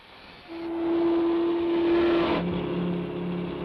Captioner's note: engine rumbles